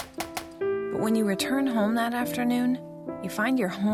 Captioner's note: gunfire